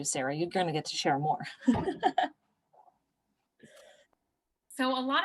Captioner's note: laughter